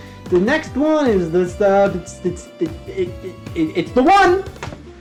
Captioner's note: stammers